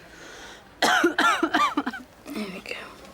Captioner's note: jade coughs